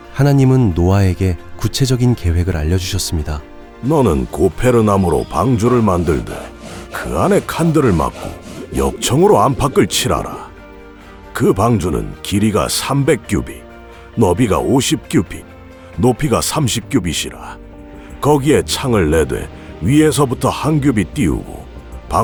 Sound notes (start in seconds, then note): 4.1 Biblical voice